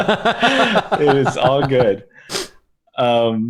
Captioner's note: laughter